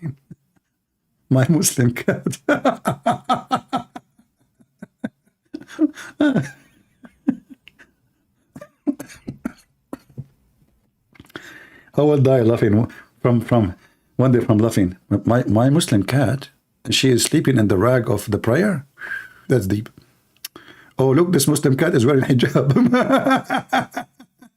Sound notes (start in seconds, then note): 4.6 Ketawa